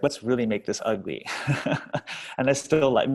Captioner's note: laughs